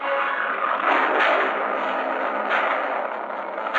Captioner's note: engine revving